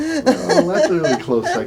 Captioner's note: laughter